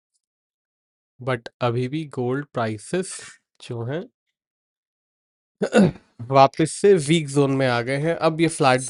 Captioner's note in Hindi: गला साफ़ करने की आवाज़